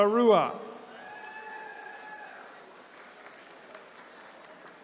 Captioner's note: attendees cheering